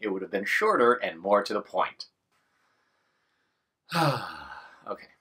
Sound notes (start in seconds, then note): 3.8 sigh